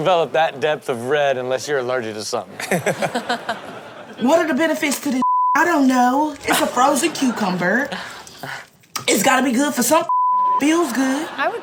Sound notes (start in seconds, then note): 2.5 audience laughs; 5.2 beep; 10.0 beep